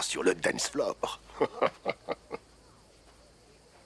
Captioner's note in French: rires